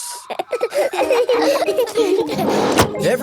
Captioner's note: all laughing